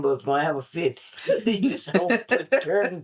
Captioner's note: laughter